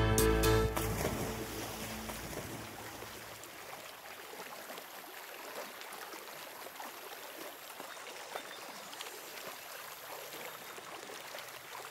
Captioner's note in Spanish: ruido de zambullidas